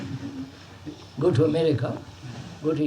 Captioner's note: laughter